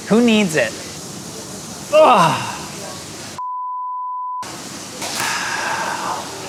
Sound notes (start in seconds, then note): 5.2 sighs